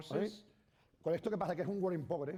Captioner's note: speaking spanish